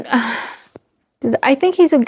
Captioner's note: sighs